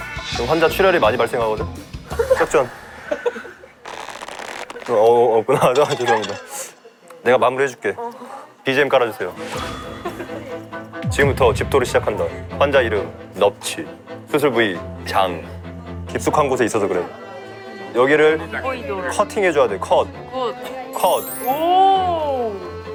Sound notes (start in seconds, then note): 3.9 gritting teeth